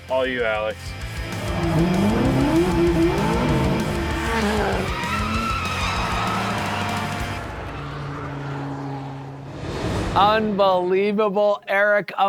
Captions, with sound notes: All you, Alex. (energetic music) (car engine revving) (tires screeching) (people cheering) - Unbelievable, Eric!